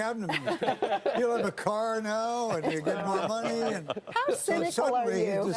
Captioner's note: laughter